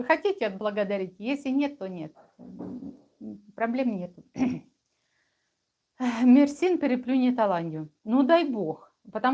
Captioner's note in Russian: откашливается